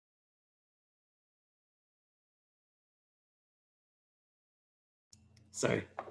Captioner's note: silence